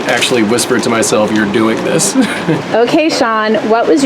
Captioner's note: laughs